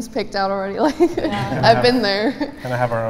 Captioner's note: laughs